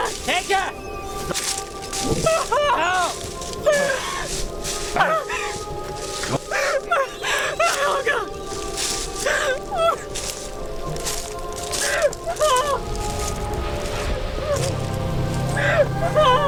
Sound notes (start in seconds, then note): 2.4 sobbing